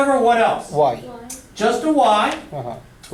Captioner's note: voiceover